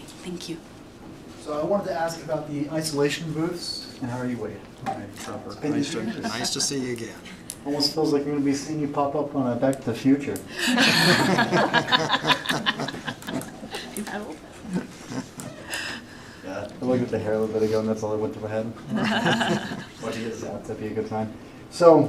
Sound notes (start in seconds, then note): 15.6 laughter; 19.0 snorts